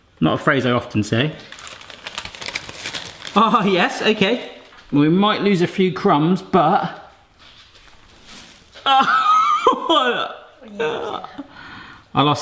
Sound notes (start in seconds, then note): 1.4 paper crinkling; 10.6 laughing